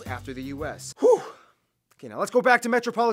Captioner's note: exhale